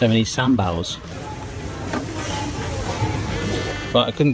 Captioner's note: people chattering